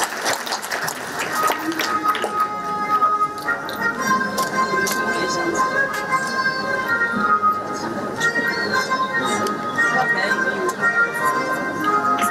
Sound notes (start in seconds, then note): 0.6 orchestral music; 6.2 chattering